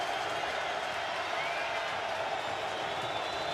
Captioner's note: crowd cheering